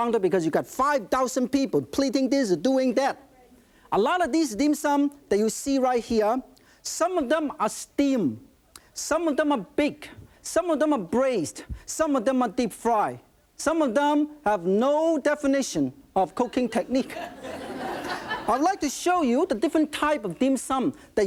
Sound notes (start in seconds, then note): 16.5 audience laughing